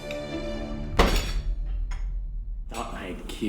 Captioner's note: foot slamming